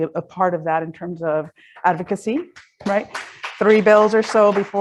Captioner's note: audience claps